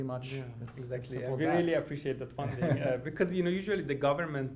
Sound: laughs

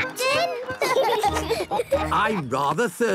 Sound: laughing

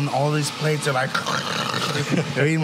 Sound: animal noises

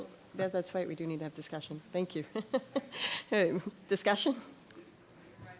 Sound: chuckles

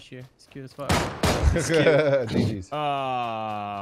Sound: laughing

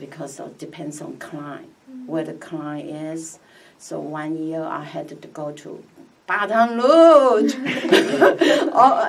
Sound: laughs

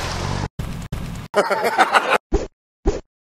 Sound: fire

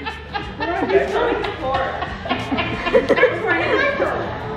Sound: laughs

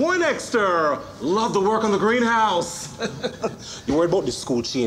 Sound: chuckles

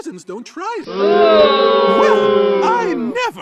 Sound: crowd boos

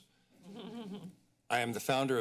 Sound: laughter

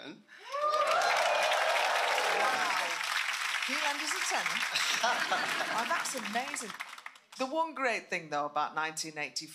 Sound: applause

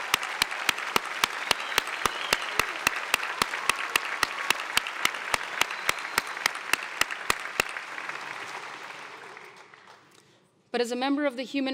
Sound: applause

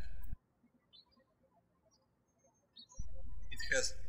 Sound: birds chirping

